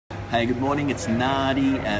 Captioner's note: people talking